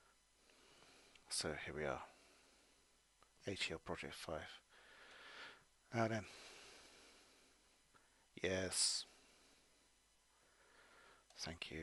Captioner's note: clicks